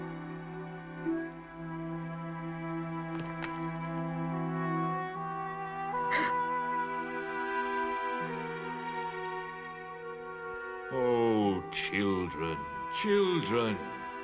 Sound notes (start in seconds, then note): 3.1 rocks falling; 6.1 both gasp